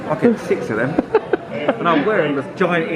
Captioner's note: laughing